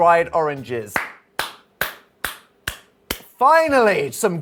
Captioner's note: clapping